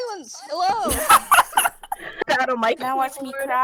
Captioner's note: laughter